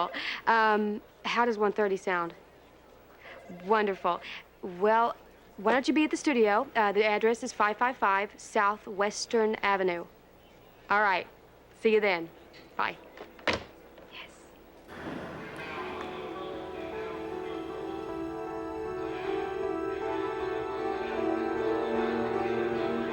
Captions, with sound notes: - Great, that's wonderful; how does 1:30 sound? Wonderful, well, why don't you be at the studio? The address is 555 Southwestern. All right, see you then, bye. Yes. (bus announcer speaks faintly) (soft music)